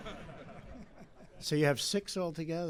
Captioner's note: laughter